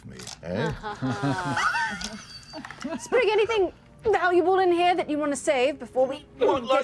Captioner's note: sarcastic laugh